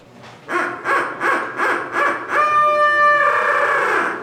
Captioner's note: turkey locator calls